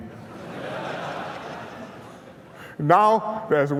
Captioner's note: laughter